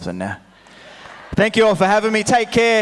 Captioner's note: audience laughs